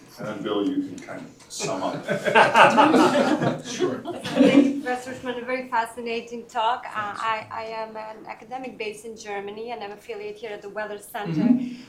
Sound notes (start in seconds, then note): 1.6 laughter